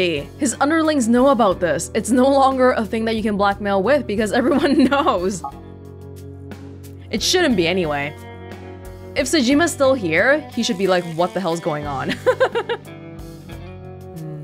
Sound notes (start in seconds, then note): 12.1 chuckles